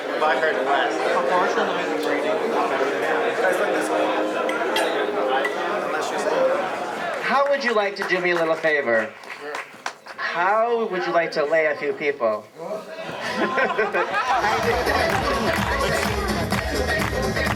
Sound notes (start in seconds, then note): 13.0 laughter; 14.4 music, clapping